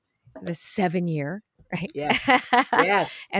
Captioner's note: laughs